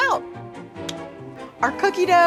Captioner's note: clicks tongue